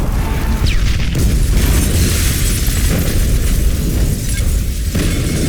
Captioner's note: explosions booming